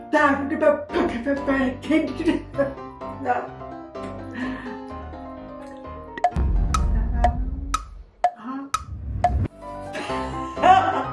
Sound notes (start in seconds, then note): 6.2 tick tock tick tock; 6.4 dramatic boom sfx; 10.4 mom laughing